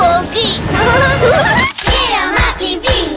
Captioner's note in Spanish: Risas